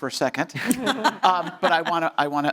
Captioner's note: panelists laughing